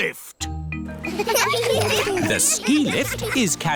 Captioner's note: laughter